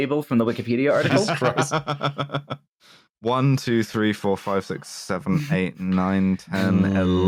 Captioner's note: laughs villainously